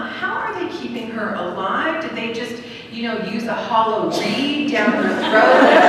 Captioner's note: laughter